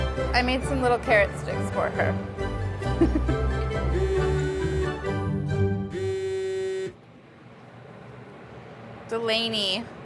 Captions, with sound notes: I made some little carrot sticks for her. [laughs] [phone vibrating] Delaney.